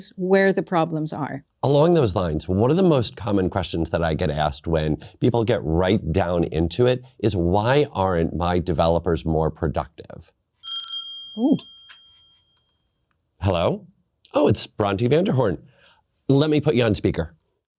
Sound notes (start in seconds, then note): 10.6 phone rings